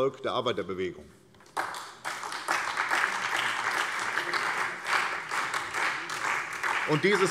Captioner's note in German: Beifall